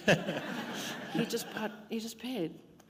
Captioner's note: laughter